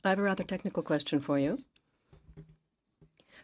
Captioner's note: speaking in French